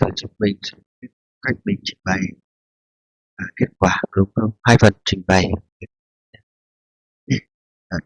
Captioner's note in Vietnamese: hắng giọng